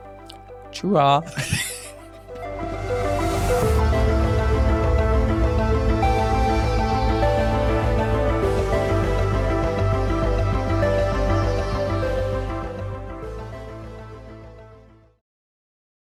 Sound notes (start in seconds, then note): 1.0 laughing; 4.3 light, ethereal music